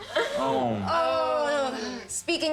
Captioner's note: playful groaning